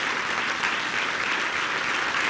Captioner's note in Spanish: aplausos